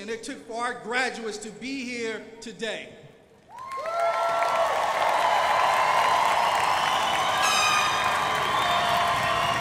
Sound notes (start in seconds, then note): 3.5 crowd applauding